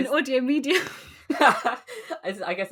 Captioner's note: laughs